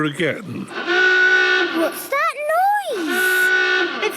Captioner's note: horn honking; honking